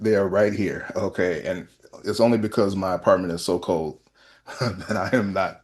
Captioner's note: laughter